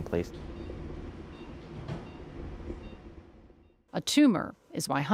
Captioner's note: machine beeping